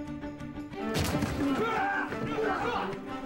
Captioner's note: both grunting, yelling